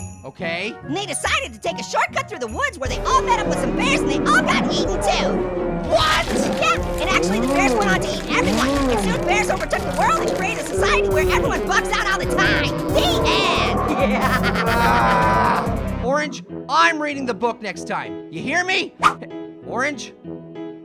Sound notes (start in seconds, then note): 14.0 laughing; 14.9 Pear groaning